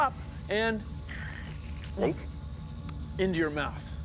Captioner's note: gulps